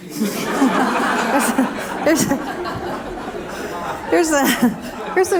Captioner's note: laughter